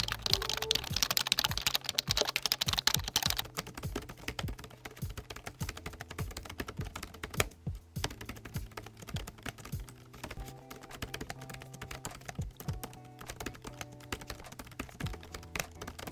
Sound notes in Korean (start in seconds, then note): 3.4 오멘16 키보드 타이핑